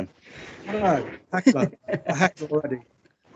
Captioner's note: audience Laughing